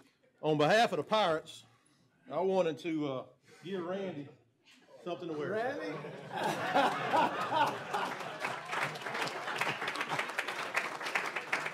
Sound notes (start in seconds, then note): 5.4 laughter; 8.0 applause